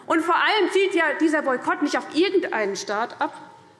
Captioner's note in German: none